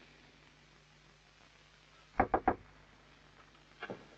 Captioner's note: knocking